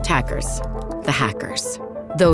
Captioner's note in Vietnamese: tiếng đánh máy